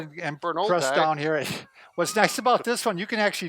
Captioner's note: laughs